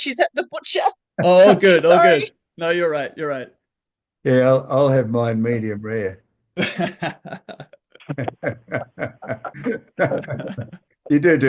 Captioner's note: laughter